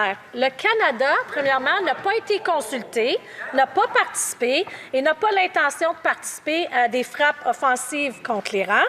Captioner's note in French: voix de l'interprète